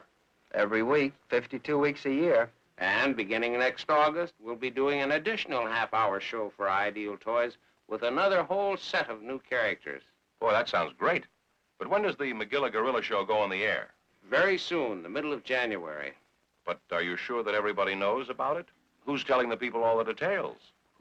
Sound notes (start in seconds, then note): none